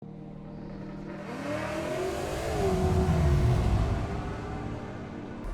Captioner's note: string music; engine accelerating